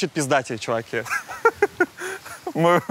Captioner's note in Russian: Дудь смеётся